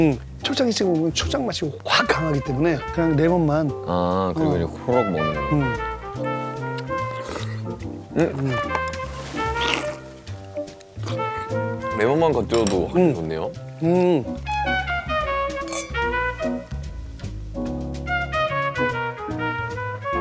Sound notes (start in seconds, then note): 8.1 slurp